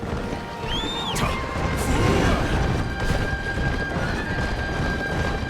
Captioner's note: Lu Bu whistling; intense music